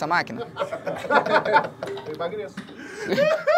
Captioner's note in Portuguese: risadas